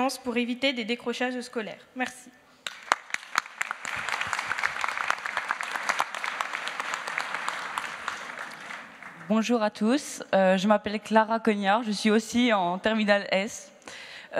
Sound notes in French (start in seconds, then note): 2.6 Applaudissements